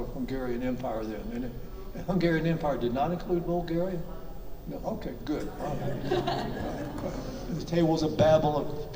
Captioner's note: everyone laughs